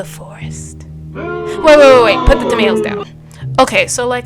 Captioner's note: booing sfx